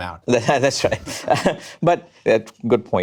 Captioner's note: chuckles